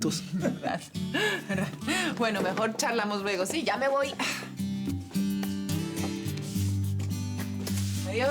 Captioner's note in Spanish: Risas